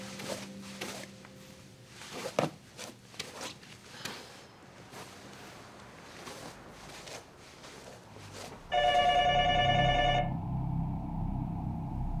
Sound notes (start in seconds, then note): 8.6 phone ringing